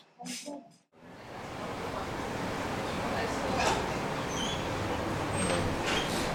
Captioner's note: quiet cafe ambient